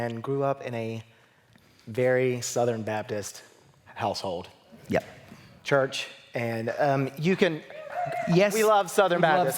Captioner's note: cheering